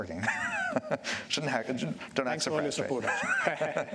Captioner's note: laughs